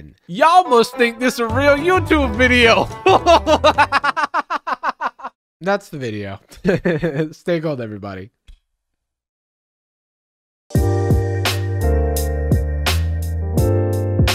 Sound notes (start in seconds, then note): 2.8 laughing; 10.7 mellow hip-hop music